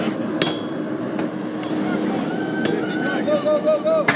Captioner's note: hammer clanging